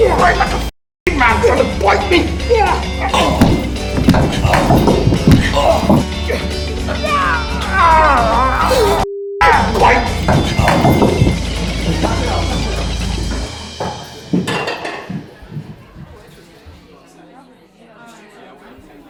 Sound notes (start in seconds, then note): 0.0 grunts; 6.8 growls; 16.4 patrons chat